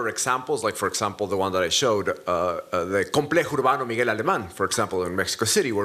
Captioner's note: spanish